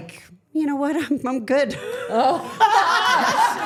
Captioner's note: laughing